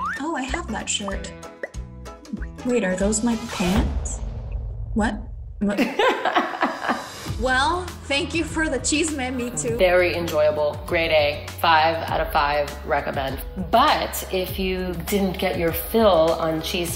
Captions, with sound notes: "Oh I have that shirt. "Wait are those my pants?" (comedic whistling) "What, what?" (laughs) - Well, thank you for the chisme Mitú - Very enjoyable, grade A, five out of five, recommend. But, if you didn't get your fill on